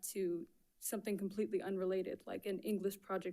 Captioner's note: none